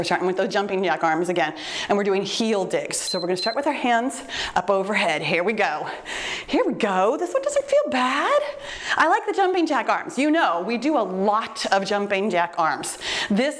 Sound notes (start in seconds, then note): 3.0 timer beeps